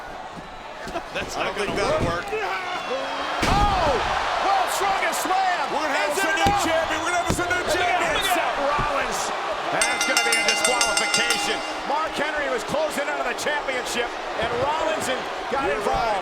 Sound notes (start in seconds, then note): 9.8 bell rings